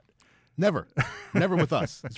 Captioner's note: laughs